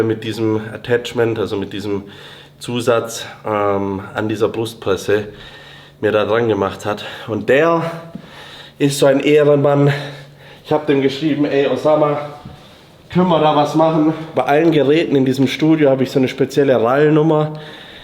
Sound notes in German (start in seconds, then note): none